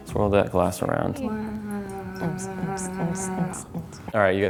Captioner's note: beatboxing